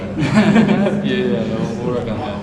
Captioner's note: laughing